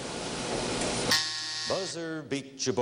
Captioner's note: buzzing